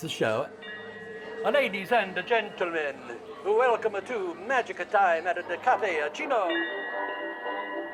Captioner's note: stylized announcement